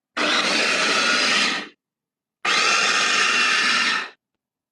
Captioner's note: machine whirring